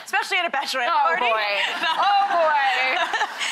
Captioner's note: all laughing; laughs